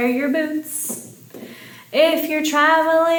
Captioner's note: finger tapping